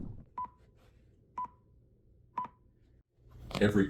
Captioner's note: beep, beep, beep